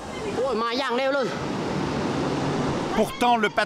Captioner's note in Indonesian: suara gelombang